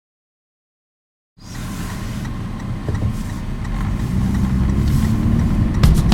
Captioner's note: driving sounds, turn signal blinker